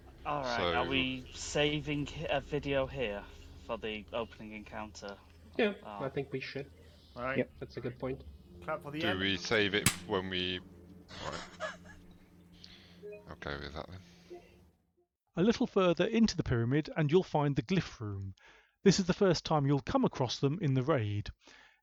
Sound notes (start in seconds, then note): 11.2 laughter